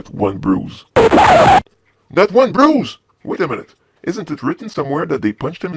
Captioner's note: record scratch